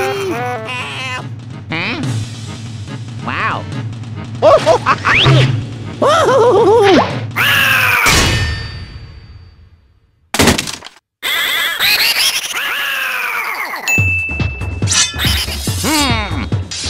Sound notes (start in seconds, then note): 8.1 clang; 13.9 ding